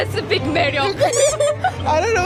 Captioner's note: hehehe